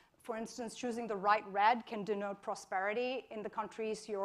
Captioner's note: none